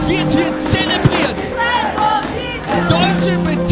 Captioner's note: crowd